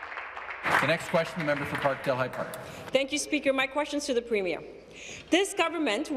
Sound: applause

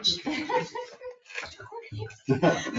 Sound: people chuckle

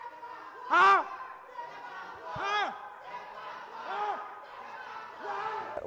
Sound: Crowd Chants Stephon Clark

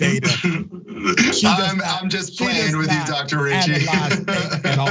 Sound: laugh

